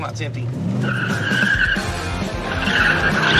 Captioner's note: tires squealing